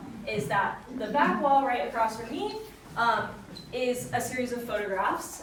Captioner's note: none